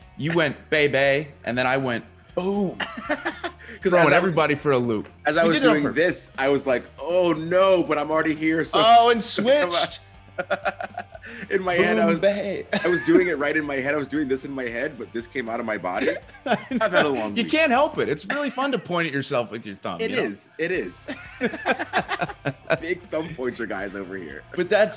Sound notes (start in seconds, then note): 10.3 laugh; 15.9 laugh; 20.9 laugh